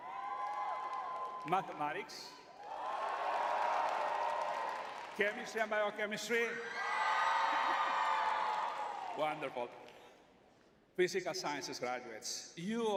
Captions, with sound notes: [cheering] Mathematics. Chemistry and biochemistry. [crowd cheering] Wonderful. Physical sciences graduates, you